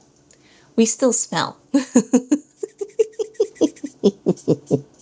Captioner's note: laughter